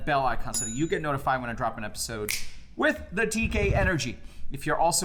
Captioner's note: snaps fingers